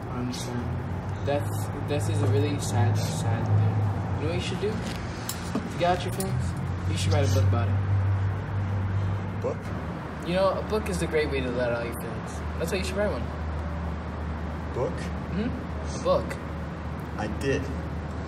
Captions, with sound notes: I understand. That's- that is a really sad, sad thing. - You know what you should do, to get out your feelings? - [ Scoffing ] - You should write a book about it. - A book? You know, a book is a great way to let out your feelings, that's why you should write one. - Book? - Mhm. - A book. - I did.